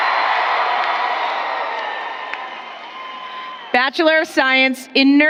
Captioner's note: applause